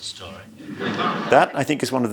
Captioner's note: audience laughs